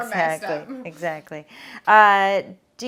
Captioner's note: laughs